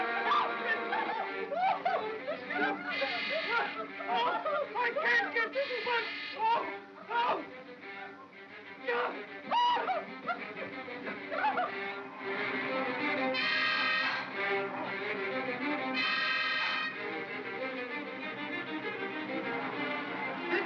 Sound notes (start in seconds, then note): 8.9 Ollie cries out; 9.5 Stan yelps; 10.8 suspenseful music